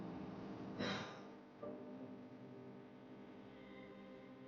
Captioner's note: Sanjona sighs